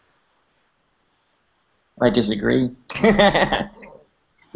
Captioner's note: laughs